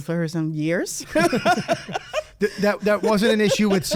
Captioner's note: laugh